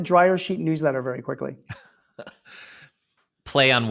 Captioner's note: laughs